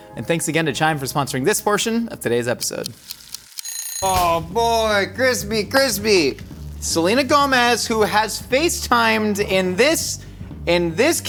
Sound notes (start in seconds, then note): 2.6 timer ticking; 3.5 timer ringing